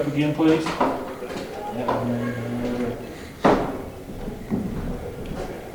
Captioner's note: banging